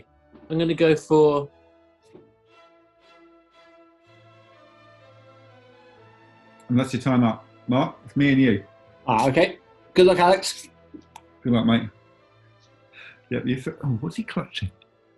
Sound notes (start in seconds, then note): none